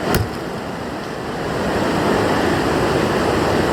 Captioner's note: water fall roars; cleaver thud